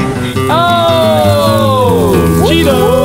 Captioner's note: exclaiming